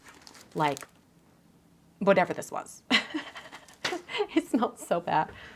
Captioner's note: laughs